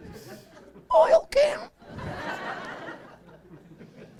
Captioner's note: laughing